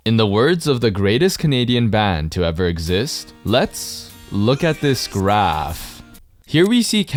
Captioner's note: obviously sarcasm